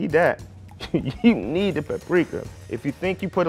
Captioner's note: laughs